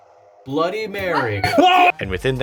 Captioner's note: screams